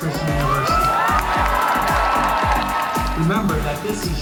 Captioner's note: crowd cheering and applauding